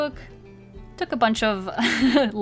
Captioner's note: laughs